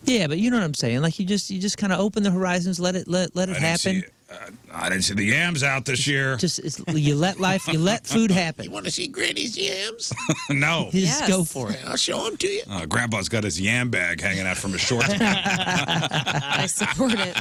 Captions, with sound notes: Yeah, but you know what I'm saying. Like you just kinda open the horizons, let it happen. I didn't see the yams out this year. You let life, you let food happen. You wanna see Granny's yams? No. Just go for it. I'll show them to you. Grandpa's got his yam bag hanging out from his shorts. (Laughing) I support it.